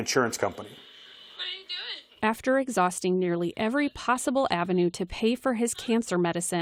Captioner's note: voice-over